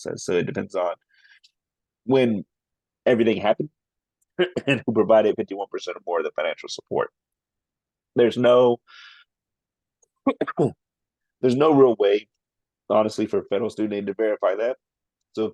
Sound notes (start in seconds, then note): 10.2 coughs